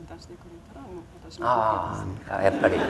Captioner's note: laughter